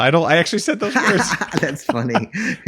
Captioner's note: laughing